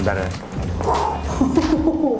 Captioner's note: sighs